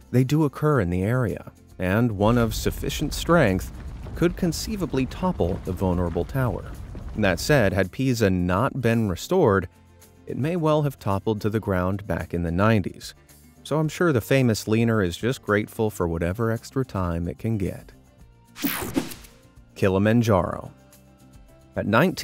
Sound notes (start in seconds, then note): 18.6 screen whooshing